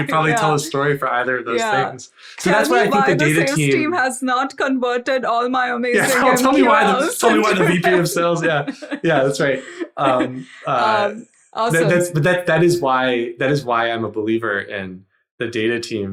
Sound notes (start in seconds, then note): 5.9 laughs; 10.5 laughing